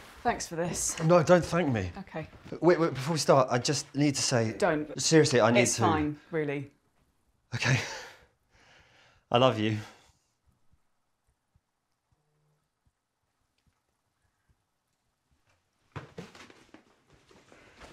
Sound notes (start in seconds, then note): none